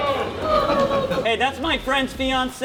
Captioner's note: scattered boos